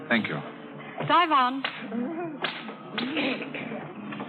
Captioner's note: crying